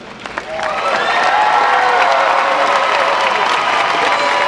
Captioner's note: audience applauding